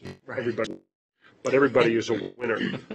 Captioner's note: laughter